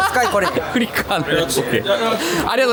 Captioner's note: laughs